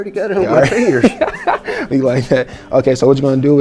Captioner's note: laughing